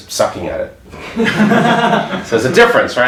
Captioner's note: audience laughs